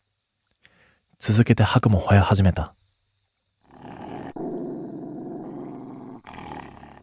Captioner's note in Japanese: うめき声